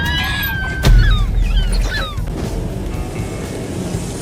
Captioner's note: children screaming; door slamming